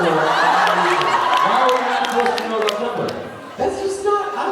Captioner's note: crowd laughs